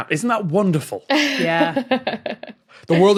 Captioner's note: chuckles